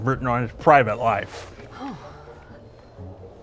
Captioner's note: she gasps